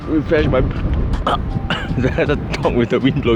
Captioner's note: cold air gagging noises